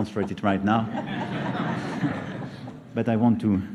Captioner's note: laughter